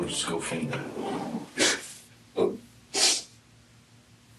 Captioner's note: crying, sniffling